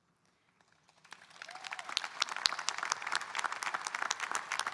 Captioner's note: audience applauding